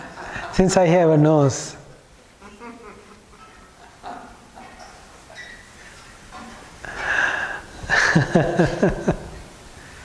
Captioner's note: laughing